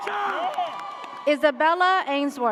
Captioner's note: audience cheers